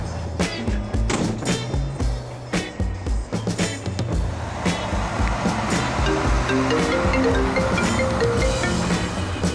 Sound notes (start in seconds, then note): 6.0 phone ringing